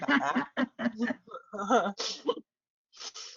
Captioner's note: laughs